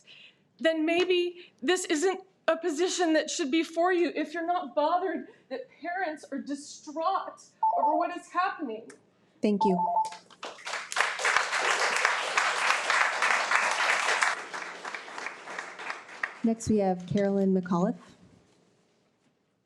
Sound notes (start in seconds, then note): 9.6 alarm beeps; 10.1 audience applauding